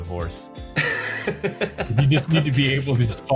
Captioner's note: laughing